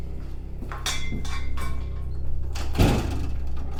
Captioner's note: pan clanging